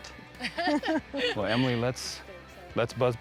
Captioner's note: laughing